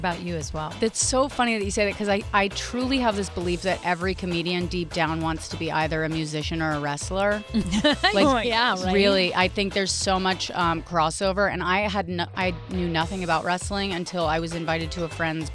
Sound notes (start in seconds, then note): 7.5 laugh